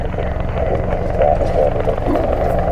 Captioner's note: helicopter blades whirl; dog barking in distant background